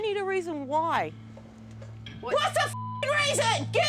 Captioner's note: shouting